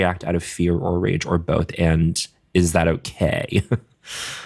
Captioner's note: chuckles